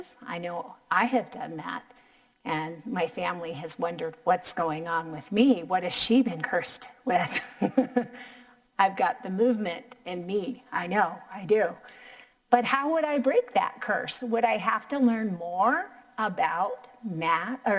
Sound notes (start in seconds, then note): 8.1 laughing